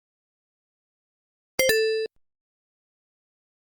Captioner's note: Sonic 1 Checkpoint Sound